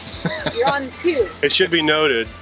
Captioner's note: laughs